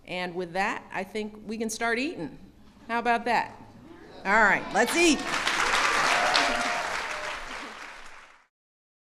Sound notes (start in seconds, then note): 4.8 applause